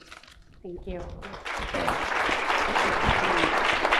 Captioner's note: clapping